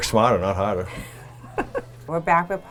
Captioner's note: chuckles